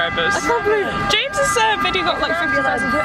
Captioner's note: beeping noise in background continues